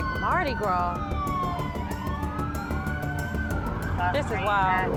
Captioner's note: police siren